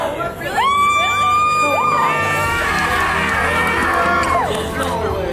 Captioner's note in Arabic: أطفال يهتفون